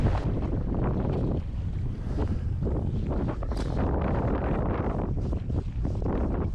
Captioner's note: strong wind noise